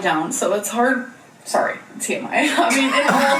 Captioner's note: laughs